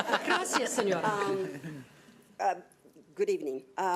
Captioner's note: laughing; speaking foreign language